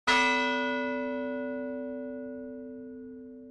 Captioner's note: bell ringing